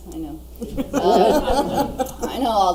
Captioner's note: audience laughs